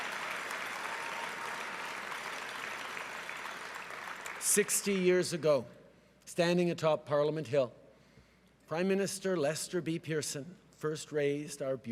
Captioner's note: cheering and applause